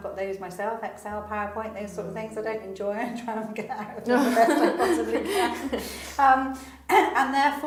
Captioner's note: laughs